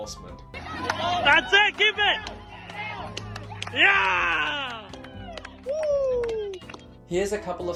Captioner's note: cheering